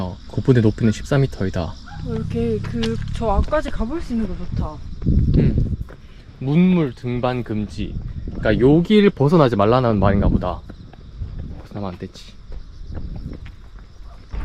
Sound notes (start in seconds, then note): 9.8 stone steps